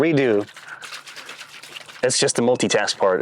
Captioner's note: paint shaking